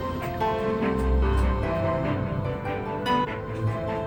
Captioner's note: running washing machine